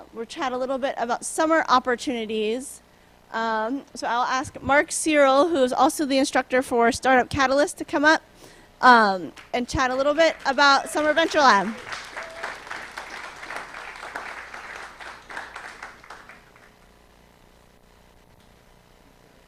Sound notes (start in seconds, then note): 12.1 applause